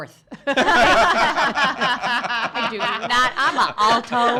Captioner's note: laughing